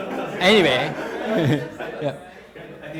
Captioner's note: students laughing; chuckling